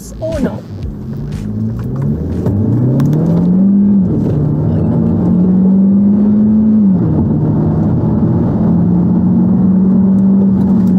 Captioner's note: engine revving